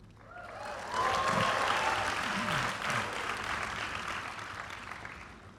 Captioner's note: cheering